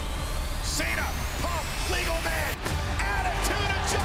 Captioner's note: crowd cheering